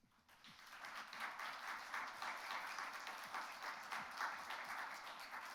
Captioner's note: audience applauds